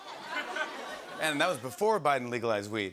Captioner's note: laughter